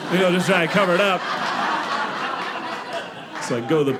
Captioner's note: audience laughing